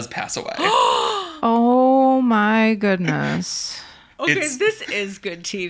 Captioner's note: gasps